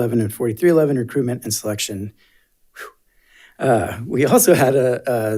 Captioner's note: exhales sharply